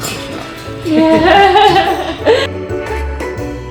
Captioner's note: laughing; perky music